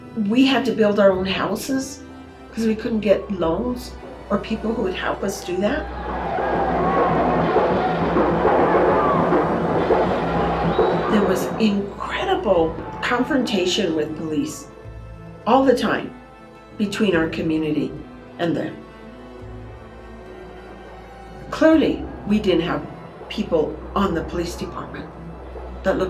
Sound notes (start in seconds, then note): 6.9 percussive marching music; 6.9 protestors yell